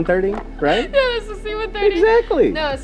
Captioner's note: laughter